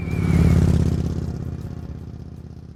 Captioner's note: motorbike revving